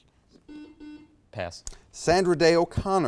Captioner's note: buzzer beeps